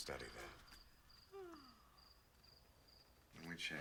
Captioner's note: yawning